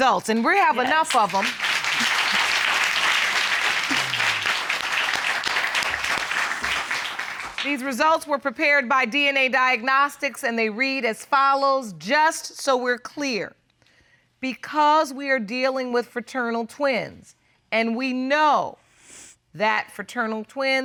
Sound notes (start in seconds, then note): 2.0 applause